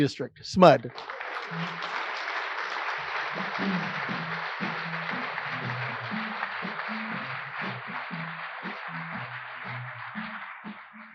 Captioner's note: applause